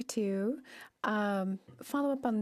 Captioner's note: speaking French